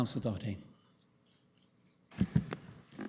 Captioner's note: audio drop